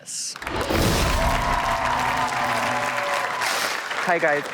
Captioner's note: audience cheers